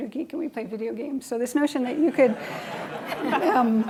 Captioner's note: laughing